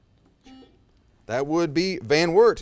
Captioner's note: buzzer